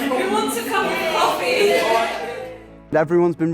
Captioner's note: group chuckles